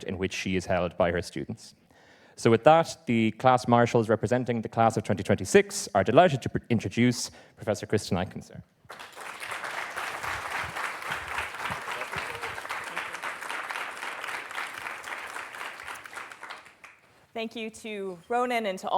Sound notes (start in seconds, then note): 13.2 applause